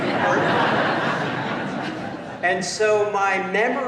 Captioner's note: laughter